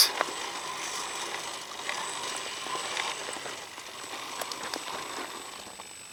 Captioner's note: remote control car hums quietly